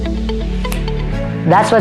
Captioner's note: finger snap